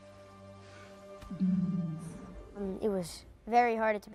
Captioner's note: soft music; purring